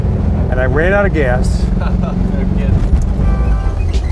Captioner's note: laughs